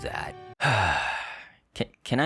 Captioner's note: sigh